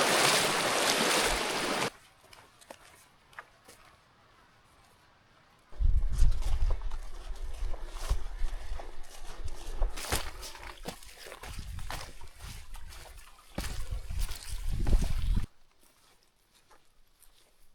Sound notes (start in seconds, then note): 4.4 water splashing